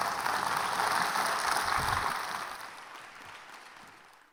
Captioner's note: audience clapping